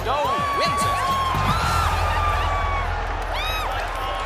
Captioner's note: all cheering